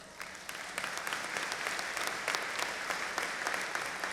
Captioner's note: audience applauding